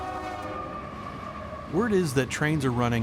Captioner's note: train passing